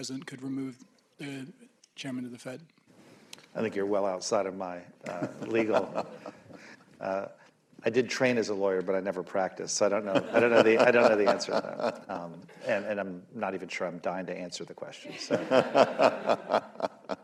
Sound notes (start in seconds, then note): 7.2 laughs; 15.0 laughter